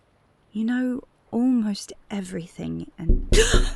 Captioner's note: gasps; tapping on the window